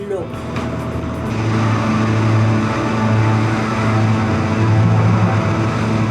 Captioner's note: plane sound